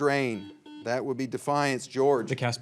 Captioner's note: signal beeps